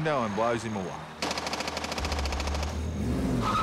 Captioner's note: machine gun fire; tyres screech